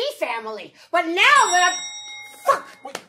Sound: elevator dinging

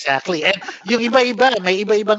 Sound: laughs

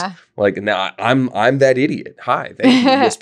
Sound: laughing

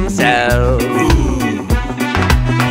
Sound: boo

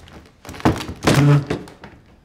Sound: door creaks

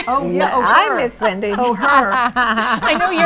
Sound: laughs

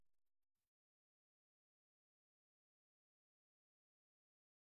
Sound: silence

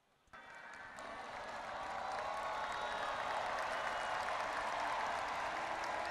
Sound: audience applauding and cheering

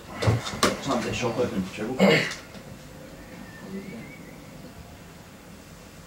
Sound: clears throat

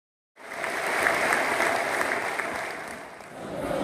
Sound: applause

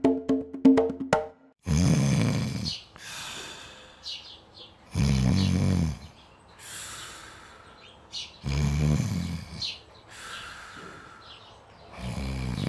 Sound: snoring

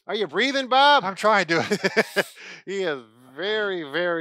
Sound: laughs

